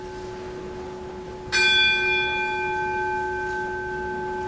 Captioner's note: second bell rings